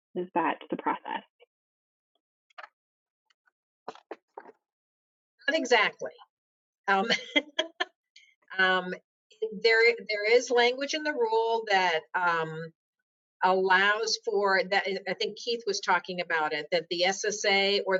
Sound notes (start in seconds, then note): 7.0 laughs